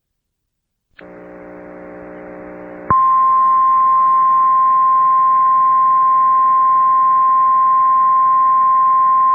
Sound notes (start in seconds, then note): 2.8 1050 HZ tone